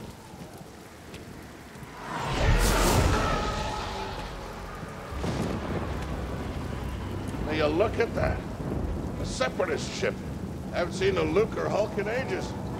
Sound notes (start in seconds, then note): 1.8 TIE fighters screech overhead; 5.0 distant thunder